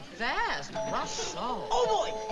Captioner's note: doorbell chimes